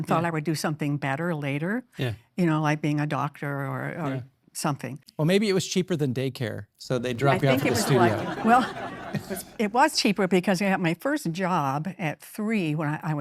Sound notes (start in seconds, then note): 7.4 audience applauding